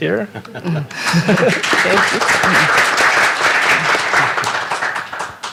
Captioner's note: applause